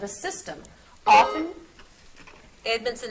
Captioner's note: buzzer beeps